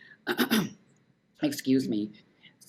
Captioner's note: clearing throat